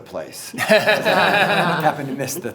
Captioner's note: everyone laughs